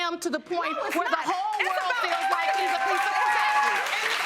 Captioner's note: audience cheering